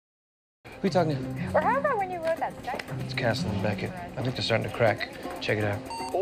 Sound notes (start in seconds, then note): 1.7 voices arguing on the phone; 5.9 castle's voice on phone